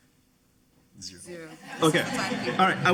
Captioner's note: audience laughing